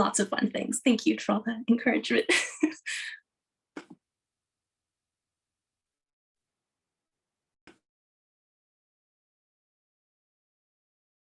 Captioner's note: chuckles